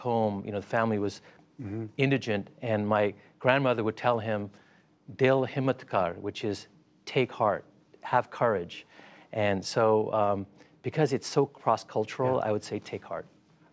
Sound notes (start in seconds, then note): 5.1 speaking foreign language